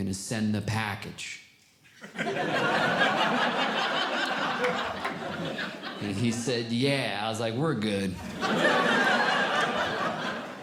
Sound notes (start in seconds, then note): 2.0 audience Laughing; 8.2 audience Laughing